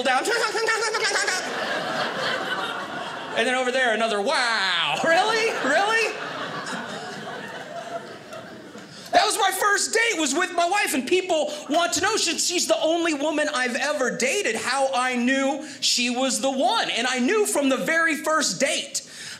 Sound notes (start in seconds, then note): 0.7 giggling; 2.4 audience laughing